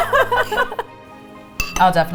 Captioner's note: both laughing